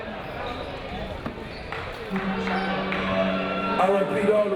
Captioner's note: audience chattering